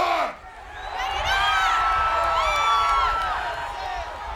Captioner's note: applause